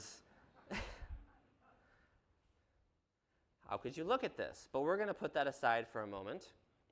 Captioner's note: laughter